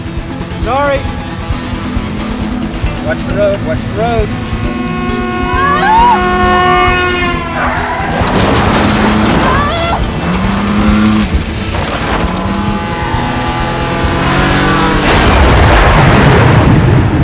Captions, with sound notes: Sorry. Watch the road. Watch the road. (car honking) (screaming) (truck horn honking)